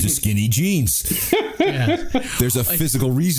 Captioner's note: laughter